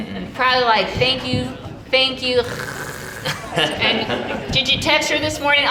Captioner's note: snoring